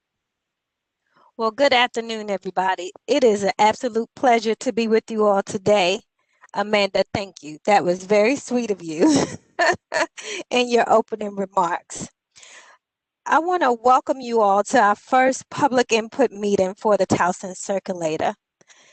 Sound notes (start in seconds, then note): 9.0 laughter